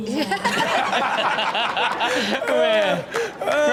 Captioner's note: all laugh